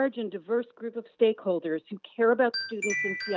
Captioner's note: chime